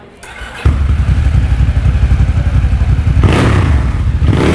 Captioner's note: engine starting; engine revving